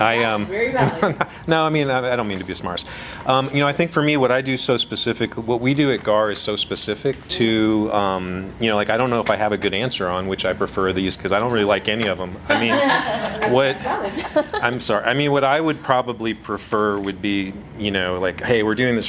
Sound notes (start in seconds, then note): 0.7 laughs; 12.5 laughter